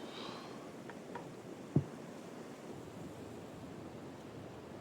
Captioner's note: cane tapping